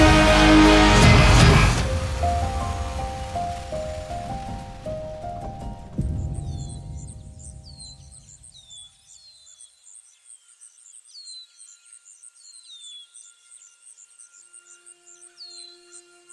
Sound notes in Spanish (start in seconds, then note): 1.9 música suave; 6.7 pájaros cantando; 14.2 música suave